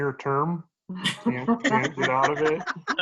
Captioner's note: laughter